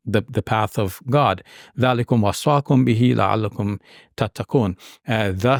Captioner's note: speaking in Arabic